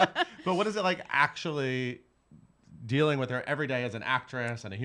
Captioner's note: laughing; giggles